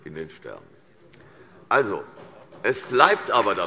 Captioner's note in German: Beifall CDU